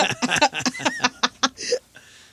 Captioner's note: laughing